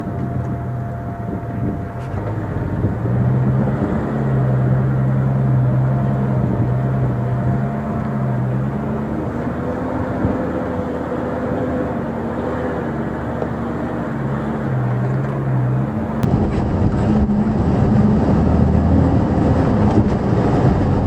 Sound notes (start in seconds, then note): 13.0 engine sounds